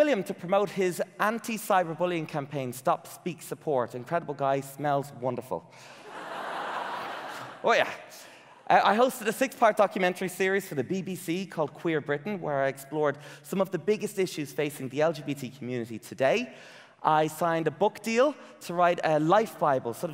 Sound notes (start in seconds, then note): 6.0 audience laughing